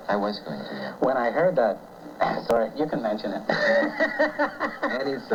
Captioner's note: laughter; laughs